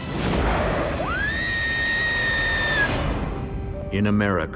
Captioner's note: woman screams